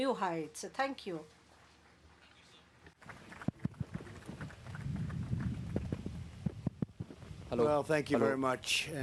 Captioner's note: applause